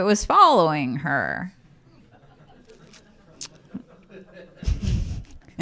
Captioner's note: laughter